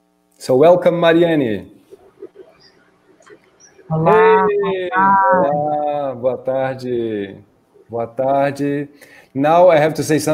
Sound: speaking in Portuguese

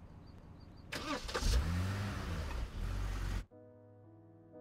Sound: engine starting; pensive music

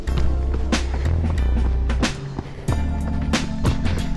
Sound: panting

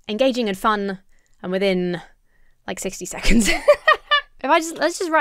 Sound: laughs

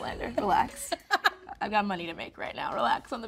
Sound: Rachel laughing

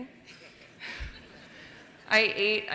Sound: laughter

